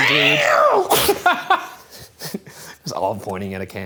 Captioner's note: imitating cat screeching